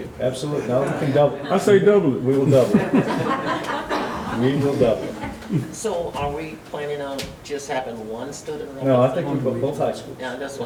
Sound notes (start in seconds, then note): 2.5 audience laughs